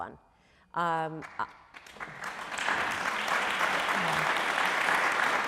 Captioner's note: crowd applauding